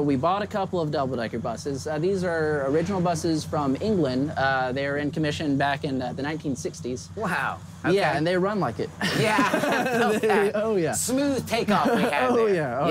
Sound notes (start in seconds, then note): 9.0 laughter